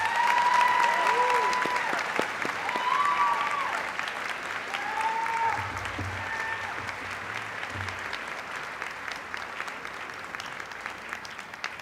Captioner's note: applause